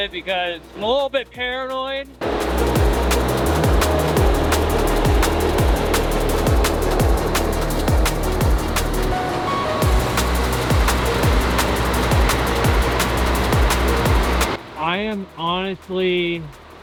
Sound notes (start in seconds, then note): 2.2 engine fans; 4.2 upbeat music